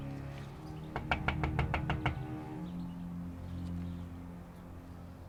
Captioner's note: tense ominous music; Ramona knocks